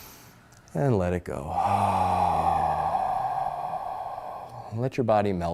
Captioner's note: loud exhaling